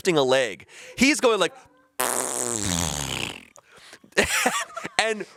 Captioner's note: imitates fart sound